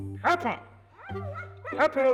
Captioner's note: dog barks